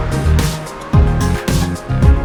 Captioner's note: heartbeat